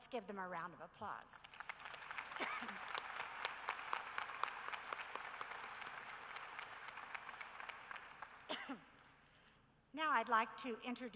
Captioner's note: applause